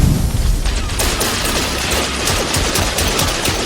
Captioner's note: explosion booms; guns blasting